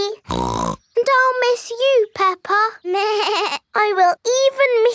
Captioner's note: snorts; bleats